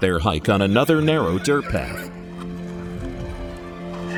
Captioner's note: horse neighs